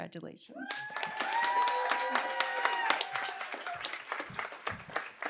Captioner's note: cheering, applause